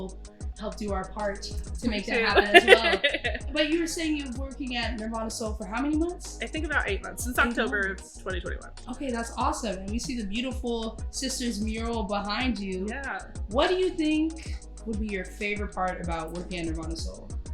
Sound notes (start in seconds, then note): 2.1 laughs